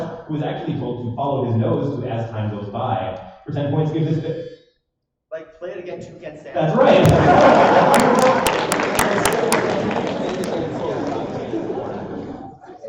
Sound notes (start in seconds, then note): 7.0 applause